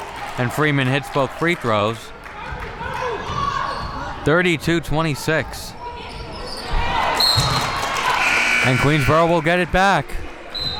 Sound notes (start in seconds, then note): 8.2 whistle blows